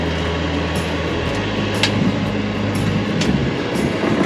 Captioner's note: machinery revving